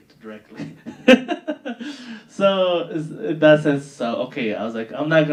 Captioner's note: laughing